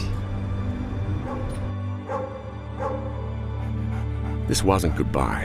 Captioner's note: poignant music; barking